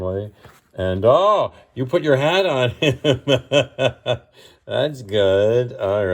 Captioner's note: laughs